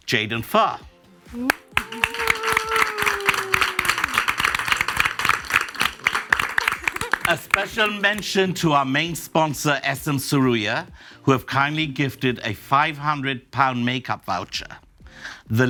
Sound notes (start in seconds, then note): 1.4 audience applauds